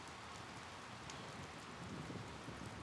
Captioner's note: rain pattering